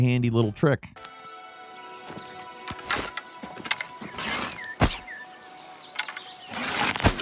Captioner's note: somber music continues; birds chirping